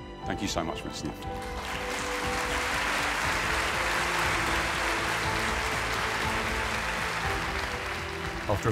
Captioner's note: applause